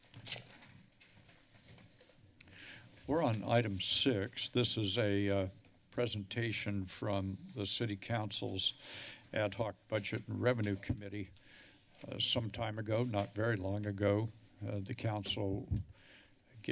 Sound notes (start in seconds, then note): none